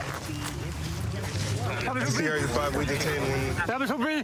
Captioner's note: excited chatter